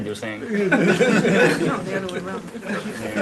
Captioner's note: laughter